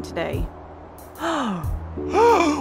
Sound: gasp

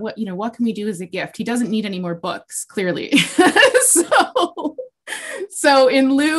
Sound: laughs

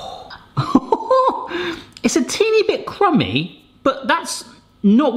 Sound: chuckles

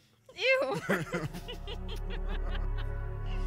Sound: Connie and Tristan laugh

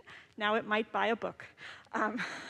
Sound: laughs

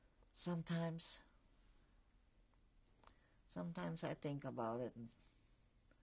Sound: pauses for 3 seconds

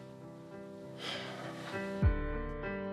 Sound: sighs

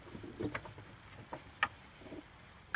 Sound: birds chirping, boards clunking

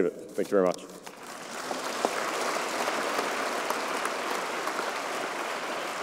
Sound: applause

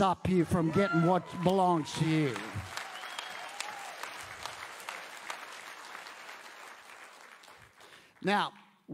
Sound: audience applauds

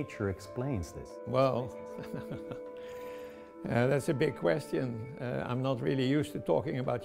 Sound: laughter

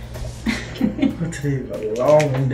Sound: laughing

